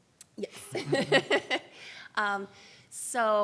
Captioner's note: laughs